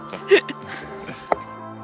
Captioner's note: laughter